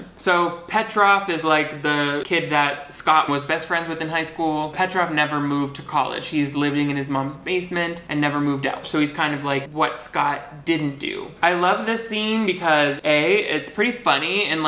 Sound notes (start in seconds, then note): none